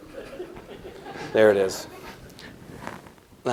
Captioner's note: laughter